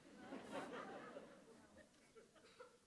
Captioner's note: laughter